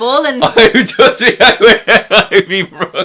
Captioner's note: laughs